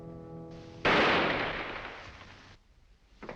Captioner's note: gun shot